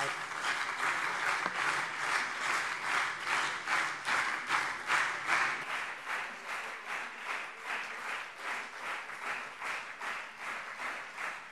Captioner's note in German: Anhaltender Beifall CDU und SPD